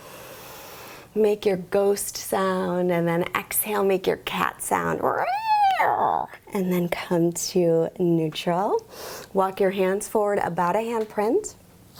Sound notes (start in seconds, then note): 0.0 inhales deeply; 5.7 screeches